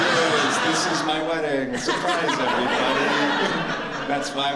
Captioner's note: laughter